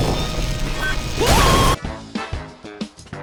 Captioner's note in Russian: крик Мар